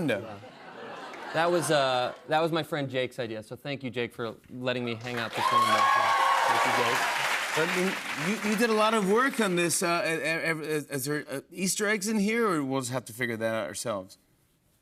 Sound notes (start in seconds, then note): 5.0 cheers and applause